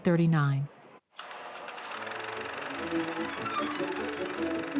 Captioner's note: film projector running